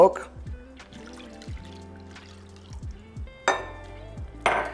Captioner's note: milk trickling